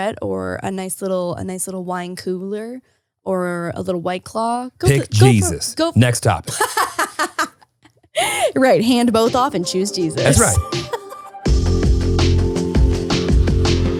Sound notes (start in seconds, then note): 6.4 laughing; 11.2 upbeat music